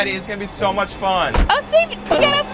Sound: car door closes

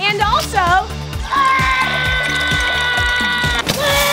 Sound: screaming

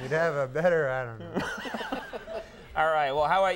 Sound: all laughing

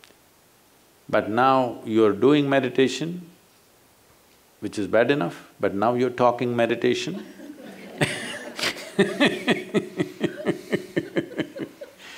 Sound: laughter

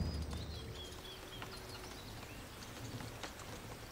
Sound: birds chirping

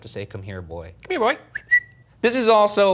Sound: whistles

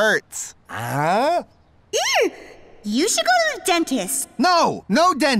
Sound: echoing

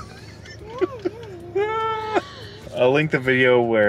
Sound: laughs

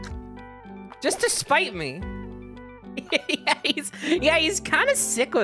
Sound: laughing

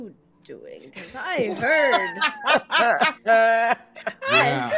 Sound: all laughs

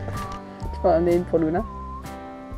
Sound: in french

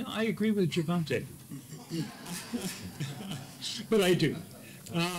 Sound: laugh

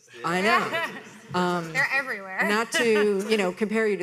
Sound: laughs

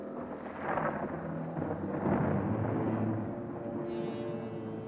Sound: thunder Rumbling

